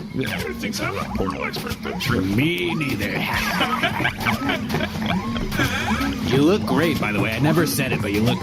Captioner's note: laughs